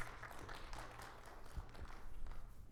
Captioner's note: attendees clapping